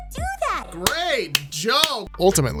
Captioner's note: clapping